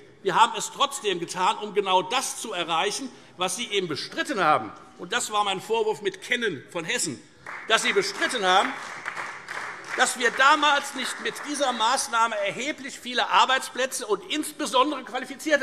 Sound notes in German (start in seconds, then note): 7.4 Beifall Freie Demokraten